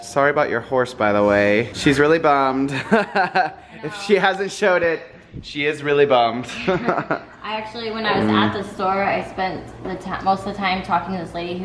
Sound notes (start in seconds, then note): 2.7 laughs